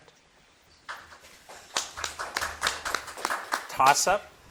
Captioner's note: audience clapping